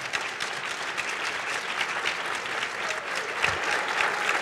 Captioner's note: applause